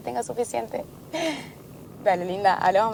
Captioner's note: laughing